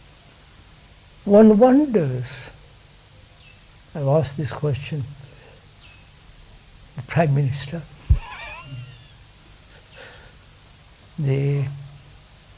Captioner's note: laughs